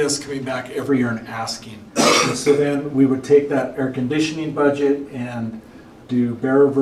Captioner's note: clears throat